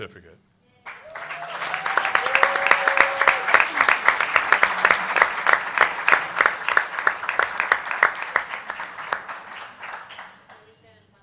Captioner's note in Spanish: Aplausos